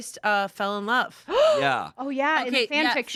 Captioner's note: gasps